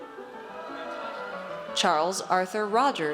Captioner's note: audience cheers